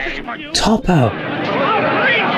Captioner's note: loud clamoring and chattering